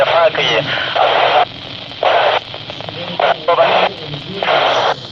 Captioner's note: radio clatter